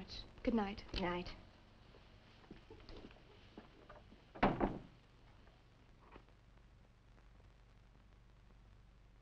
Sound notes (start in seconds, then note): 4.3 door thudding